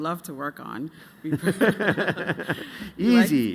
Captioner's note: laughter